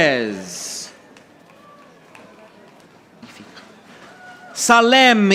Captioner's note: audience applauding